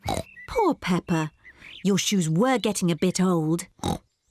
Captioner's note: oinks